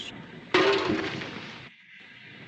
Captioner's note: clang